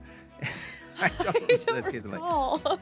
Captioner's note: laughs